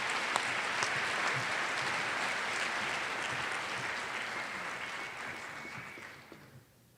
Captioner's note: applause